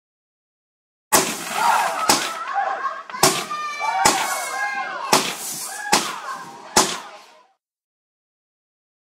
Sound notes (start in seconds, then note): 0.0 sound of fireworks